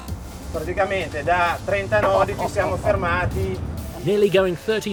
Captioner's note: speaking in foreign language